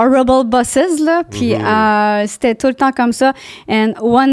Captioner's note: in french